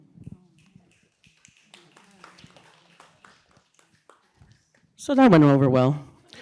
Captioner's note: applause